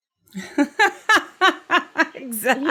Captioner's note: laughs